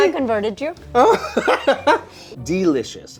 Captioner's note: laughs